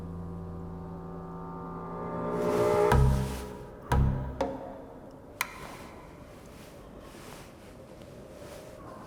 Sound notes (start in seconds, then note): 3.4 feet ruffling; 3.4 suspenseful music